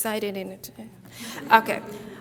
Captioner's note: audience laughs